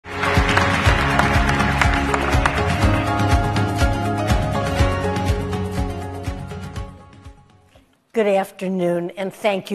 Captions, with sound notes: (audience applauding) (upbeat music) - Good afternoon and thank you for being here.